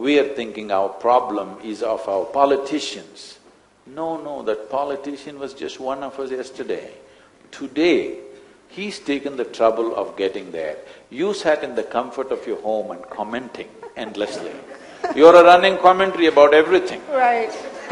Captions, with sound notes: we are thinking our problem is of our politicians. No, no, that politician was just one of us yesterday. Today, he?s taken the trouble of getting there. You sat in the comfort of your home and commenting endlessly (Few laugh). You are a running commentary about everything (Both laugh).